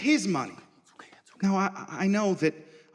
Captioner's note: whispering